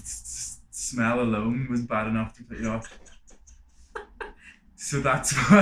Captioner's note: laughter